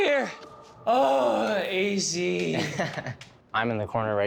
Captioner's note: laughs